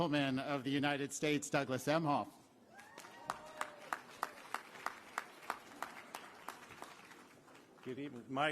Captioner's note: applause